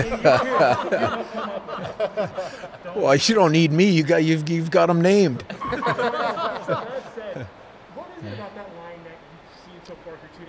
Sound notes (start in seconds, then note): 0.0 everyone laughing; 5.4 audience laughing